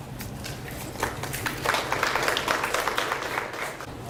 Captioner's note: audience applauds